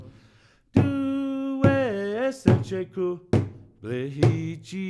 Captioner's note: chanting in Native language